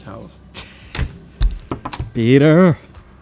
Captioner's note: laughing, knocking